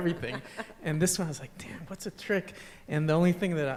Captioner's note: laughter